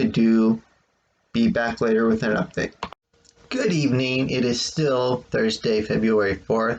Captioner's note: click